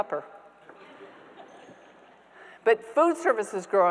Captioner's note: audience members laughing